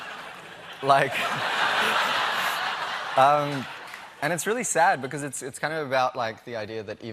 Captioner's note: laughter